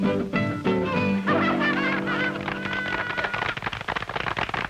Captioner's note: audience applauding